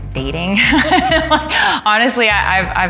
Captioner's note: laughing